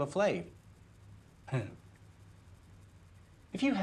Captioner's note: Mann chuckles